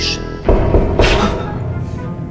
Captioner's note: knocking